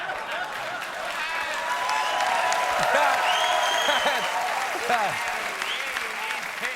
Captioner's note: cheers and applause